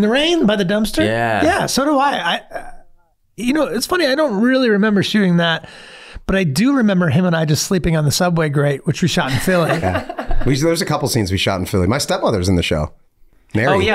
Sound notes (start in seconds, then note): 9.3 laughing